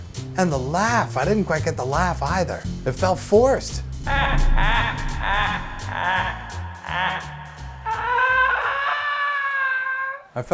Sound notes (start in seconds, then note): 4.1 The Joker's laugh; 6.4 The Joker's laugh cont'd